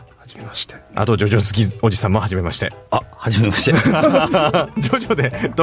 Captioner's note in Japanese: 笑い